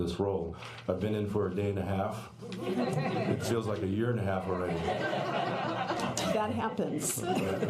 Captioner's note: laughter